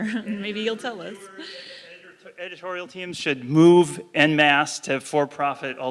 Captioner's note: laugh